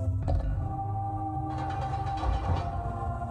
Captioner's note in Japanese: 何かの音：ガラガラガラ